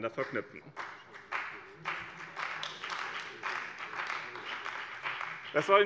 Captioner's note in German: Beifall bei dem BÜNDNIS 90/DIE GRÜNEN und der CDU